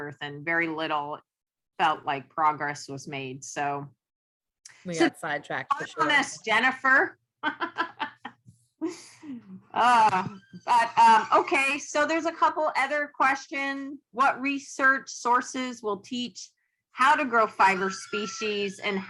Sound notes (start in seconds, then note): 5.7 laughs